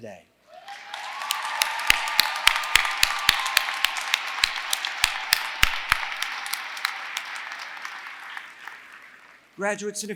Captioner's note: applause